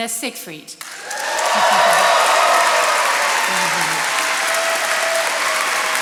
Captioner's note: attendees cheering and applauding